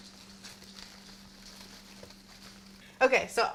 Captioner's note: flowers rustling